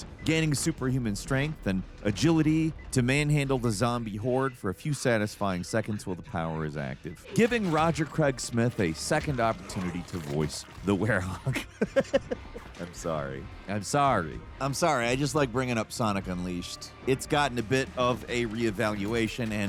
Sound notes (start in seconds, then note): 11.1 laughs